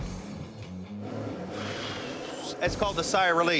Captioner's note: sighs